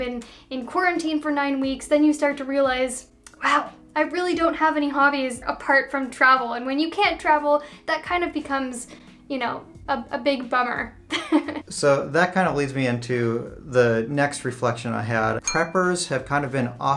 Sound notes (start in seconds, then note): 10.8 laughs